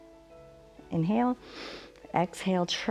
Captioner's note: inhales